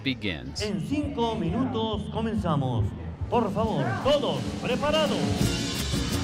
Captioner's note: speaking in foreign language; upbeat music